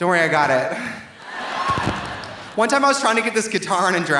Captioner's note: audience cheering; audience applauding